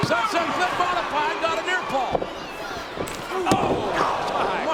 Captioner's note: audience cheering and shouting